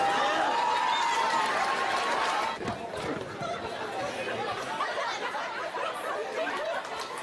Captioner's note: applause; laugh